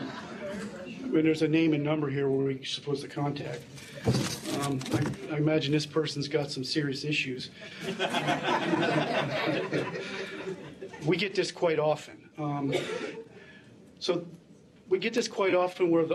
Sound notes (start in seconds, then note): 7.6 laughter